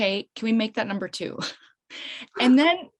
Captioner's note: chuckles